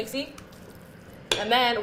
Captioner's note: stirring mixture